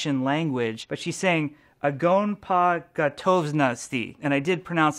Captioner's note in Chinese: 俄文